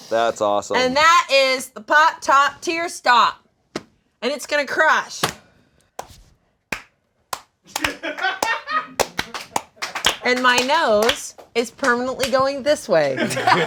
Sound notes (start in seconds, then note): 7.3 group slow clapping; 13.1 all laughing